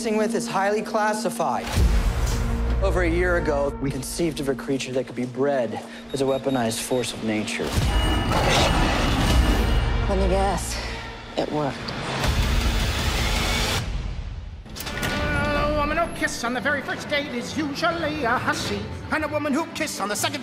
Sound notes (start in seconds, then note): 7.5 snarling; 7.7 alarm wails